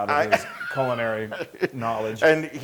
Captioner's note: laugh